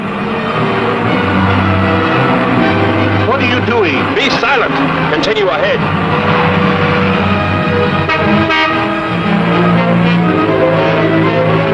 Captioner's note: cars rumbling